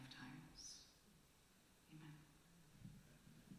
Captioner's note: whispered